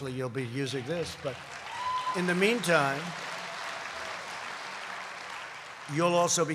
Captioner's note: applause